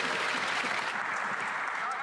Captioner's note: applause